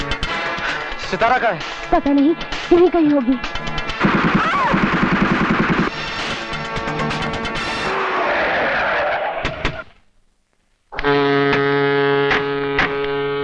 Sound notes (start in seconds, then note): 3.8 gunfire; 8.0 brakes squeal; 10.9 horn blares